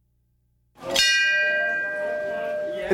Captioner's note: bell Ringing